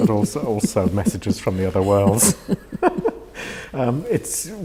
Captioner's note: laughs